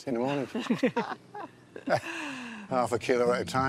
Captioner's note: laughter